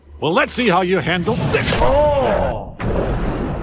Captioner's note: face punch